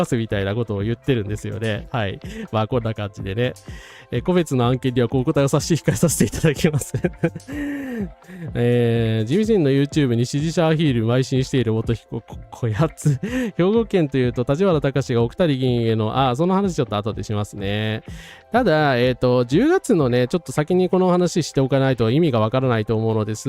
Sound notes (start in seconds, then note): 6.4 laughter; 7.3 sound of gasping